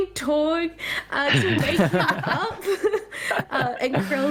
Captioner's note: all laughing